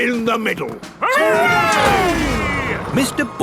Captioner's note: all cheering